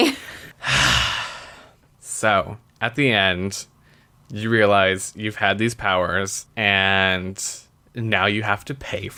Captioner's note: sighs